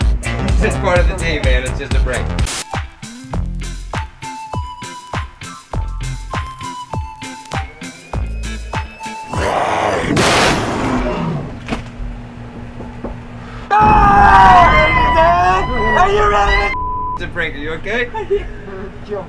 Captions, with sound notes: He's just part of the team, man. It's just a prank. [upbeat music playing] [demonic growl and jarring sound] [pranksters screaming] -It's a prank. Are you okay?